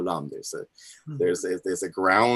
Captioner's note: foreign language 00:19:50